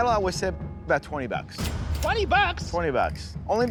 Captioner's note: cash register dings